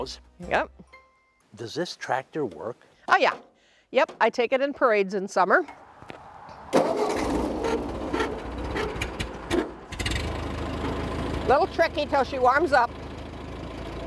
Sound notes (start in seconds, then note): 6.6 engine starts, revs